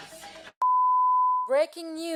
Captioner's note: long beep